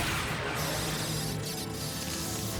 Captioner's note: electricity crackling